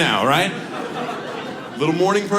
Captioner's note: audience laughs